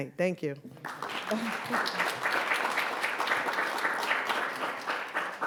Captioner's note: audience applauds